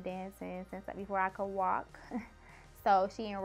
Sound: laughs

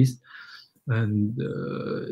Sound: speaks mandarin

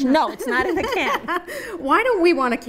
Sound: laughs

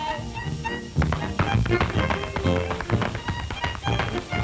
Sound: tap dancing

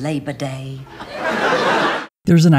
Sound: audience laughter

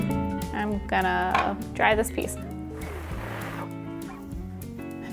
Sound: blows

